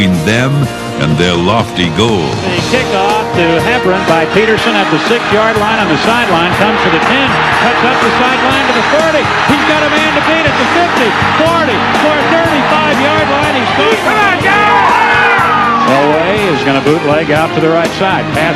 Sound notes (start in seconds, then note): 12.7 crowd cheering